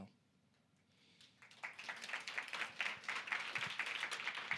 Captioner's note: applause